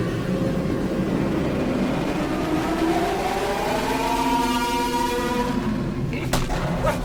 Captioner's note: A very loud scream